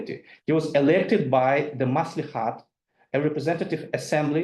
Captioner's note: speaks in foreign language